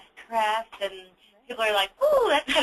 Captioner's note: laughs